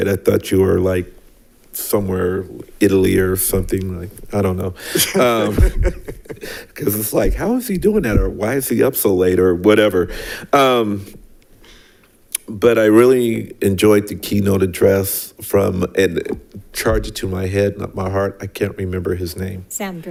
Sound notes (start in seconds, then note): 4.8 board members laugh